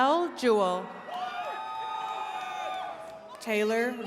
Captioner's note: attendees cheering